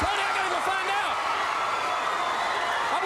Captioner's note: crowd cheering